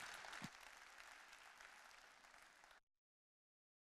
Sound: audience clapping

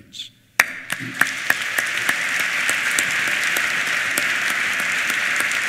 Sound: applause

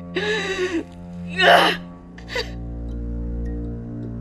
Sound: Grace weeps

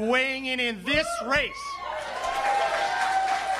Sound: cheering and applause

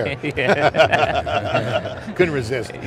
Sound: laughing

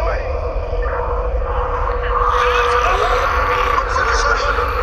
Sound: police radio crackling

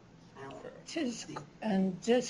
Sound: non-english

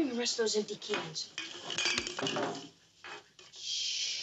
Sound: cans clanking

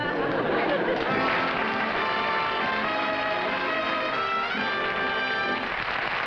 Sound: applause and music playing

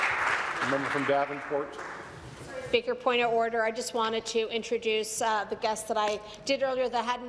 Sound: applause

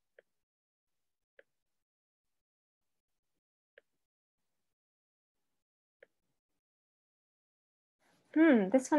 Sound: silence

